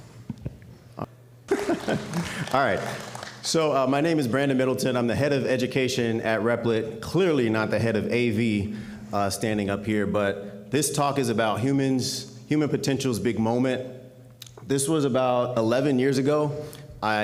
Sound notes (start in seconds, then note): 1.4 chuckles